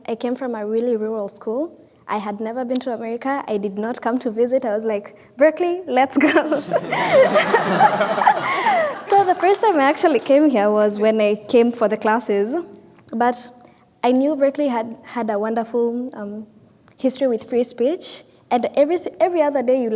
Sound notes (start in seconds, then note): 6.3 all laughing